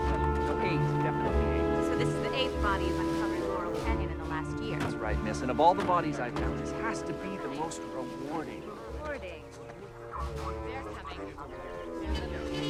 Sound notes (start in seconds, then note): 0.0 curious music continues; 10.2 cop walky-talky blaring